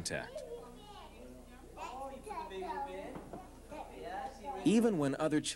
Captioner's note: people talking